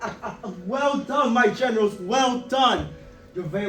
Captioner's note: laughs